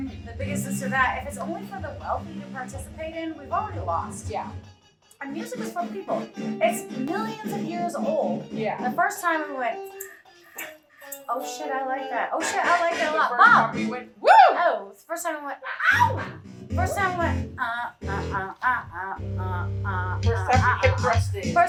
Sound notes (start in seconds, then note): 10.2 rattle noise; 19.1 vocalizing